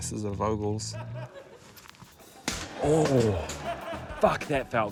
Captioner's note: laughter